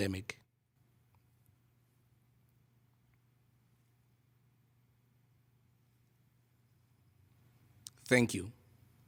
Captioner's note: pause for moment of silence